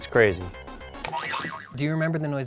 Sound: boing sound

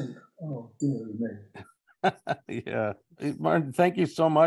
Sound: he laughs

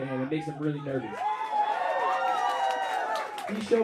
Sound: crowd cheering

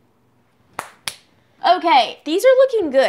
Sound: claps

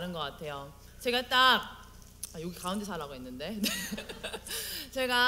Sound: laugh

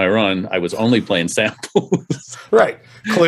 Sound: laughs

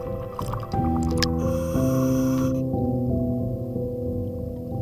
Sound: deep breathing

